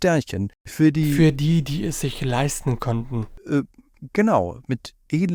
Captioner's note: dryly